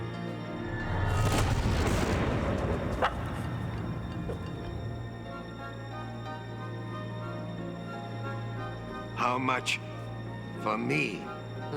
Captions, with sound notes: (ethereal woosh) - How much for me?